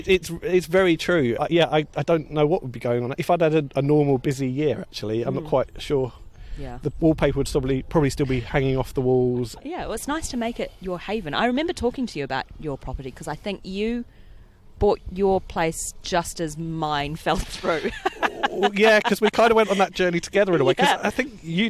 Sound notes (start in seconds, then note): 17.5 laughs